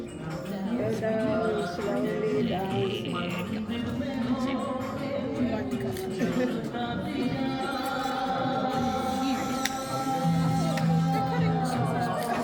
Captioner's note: children chattering